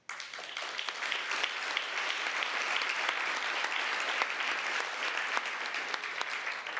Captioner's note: applause